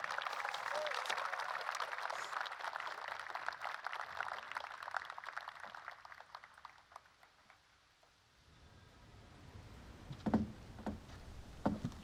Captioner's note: applause